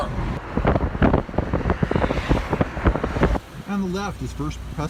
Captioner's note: wind rustling